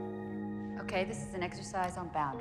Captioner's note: laughs